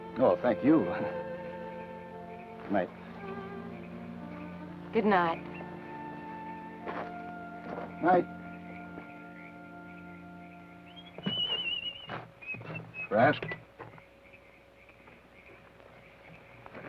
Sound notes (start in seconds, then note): 1.8 chuckles; 11.1 whistles melodically